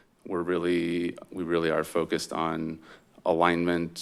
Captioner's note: none